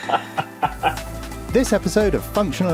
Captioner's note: evil laugh